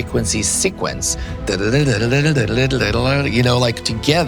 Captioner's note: mimicking musical sequence